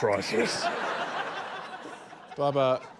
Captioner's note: laughter